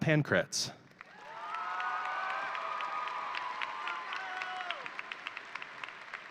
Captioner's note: audience cheering and applauding